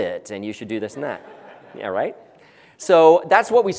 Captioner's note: laugh